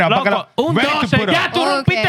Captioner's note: speaking Spanish